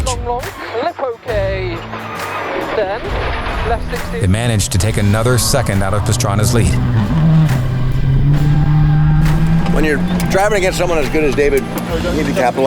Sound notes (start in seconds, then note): 7.7 enging revving